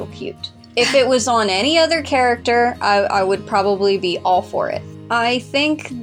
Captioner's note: chuckle